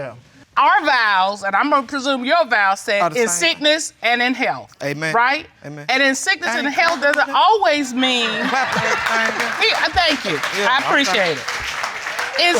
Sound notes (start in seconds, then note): 6.4 claps; 8.7 audience laughing